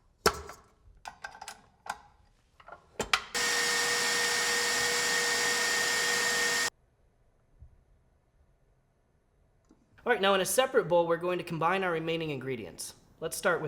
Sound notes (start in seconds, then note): 3.3 machine whirring